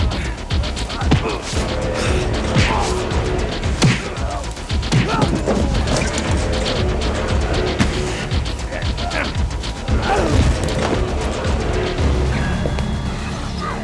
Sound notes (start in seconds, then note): 2.1 men grunting